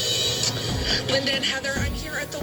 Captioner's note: on TV